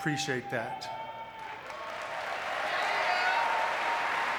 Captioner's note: audience clapping